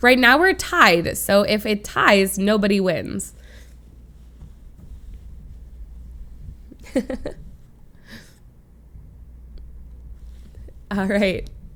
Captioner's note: laughs